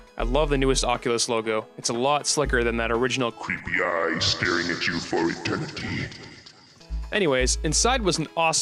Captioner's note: demonic Voice